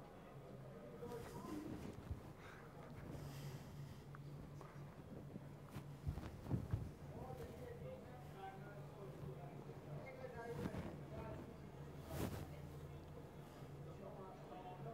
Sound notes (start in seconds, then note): none